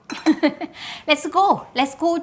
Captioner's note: chuckling